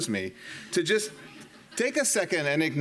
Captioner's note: audience laughing